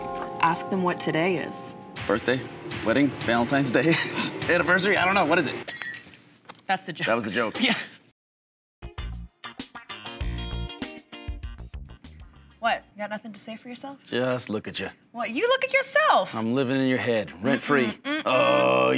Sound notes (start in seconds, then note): 5.6 glass smashing; 8.8 quirky music